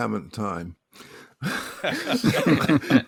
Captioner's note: laughs